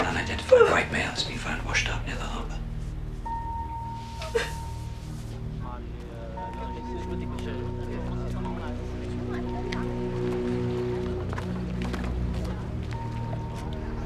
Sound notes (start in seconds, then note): 4.2 crying; 5.7 melancholy music